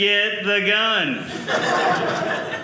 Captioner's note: audience laughing